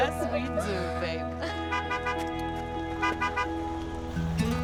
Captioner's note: car honking